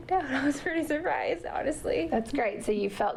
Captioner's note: laughter